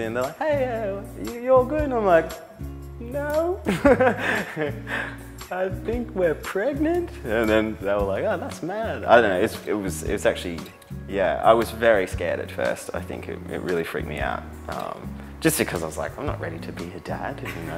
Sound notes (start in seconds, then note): 3.7 laughs nervously